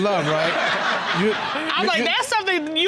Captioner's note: all laughing